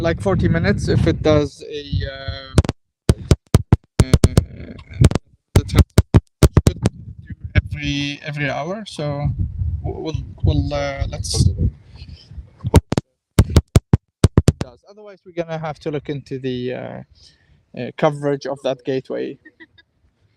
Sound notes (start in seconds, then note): 2.1 metal clanking; 12.1 metal clanking